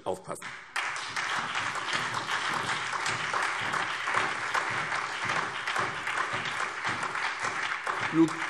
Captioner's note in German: Beifall SPD, BÜNDNIS 90/DIE GRÜNEN und DIE LINKE